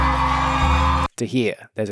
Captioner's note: audience applauding and cheering